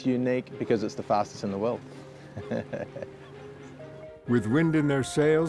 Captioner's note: laughs